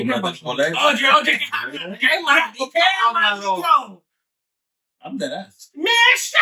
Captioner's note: speaking In Foreign Language